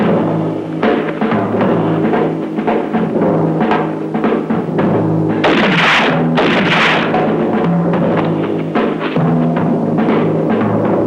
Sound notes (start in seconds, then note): 5.4 gun firing; 7.5 dramatic music